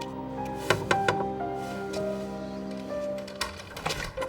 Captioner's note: knocking